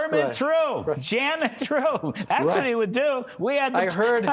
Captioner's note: laughter